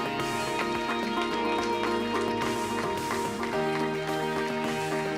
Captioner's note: audience applause